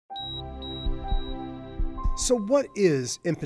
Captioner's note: high-pitched beeping